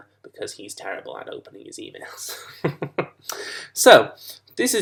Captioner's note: laughs